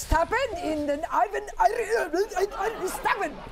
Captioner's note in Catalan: imita alemany